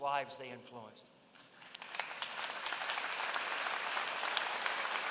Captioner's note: applause